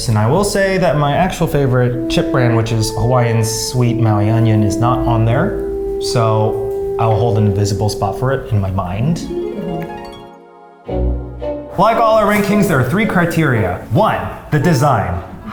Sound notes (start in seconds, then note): 9.2 heavenly sounds